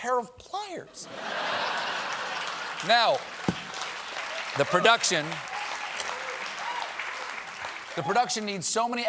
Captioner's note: laughter